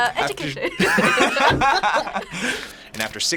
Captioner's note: both laugh